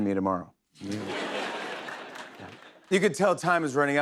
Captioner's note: laughter